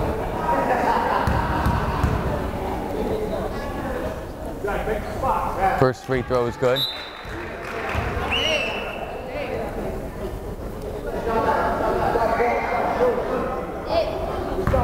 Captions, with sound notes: First free throw is good. (whistle blows) (crowd applauding) (crowd chattering)